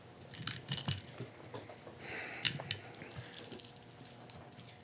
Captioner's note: dice rattling